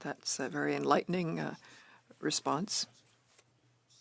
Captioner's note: speaking French